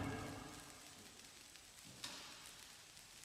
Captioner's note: static pops